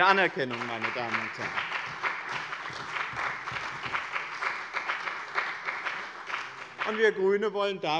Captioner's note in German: Beifall bei dem BÜNDNIS 90/DIE GRÜNEN und der CDU